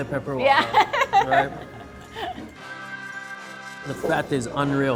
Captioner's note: laughing